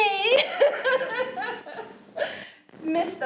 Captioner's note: laughing